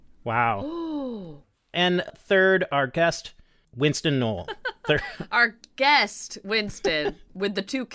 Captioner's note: laughter